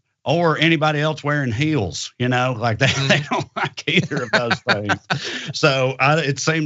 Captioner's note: laugh